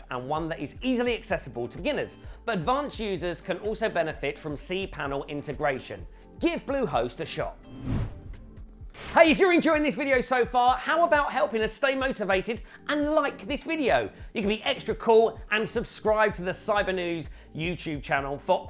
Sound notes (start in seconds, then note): 7.6 transition whooshing